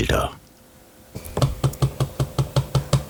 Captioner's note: knocking noises